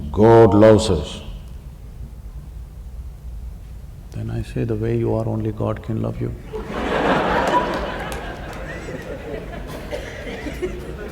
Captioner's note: laughter